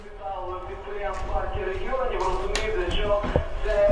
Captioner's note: radio